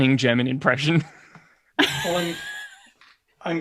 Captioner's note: laughs